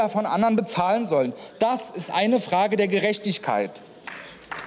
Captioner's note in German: Beifall